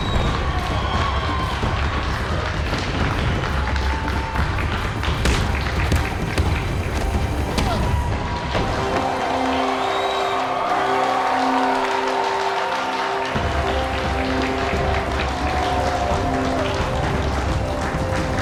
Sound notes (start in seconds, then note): 8.4 crowd cheering